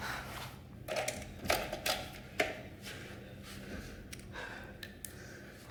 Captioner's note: Mark breathing heavily